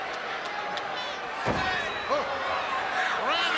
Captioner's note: head thuds